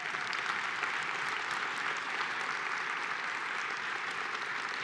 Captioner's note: applause